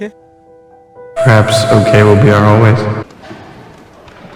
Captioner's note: distorted